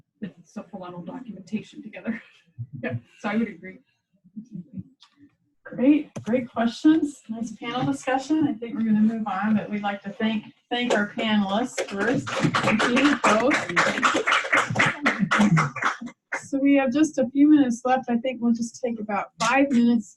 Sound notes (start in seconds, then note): 14.1 clapping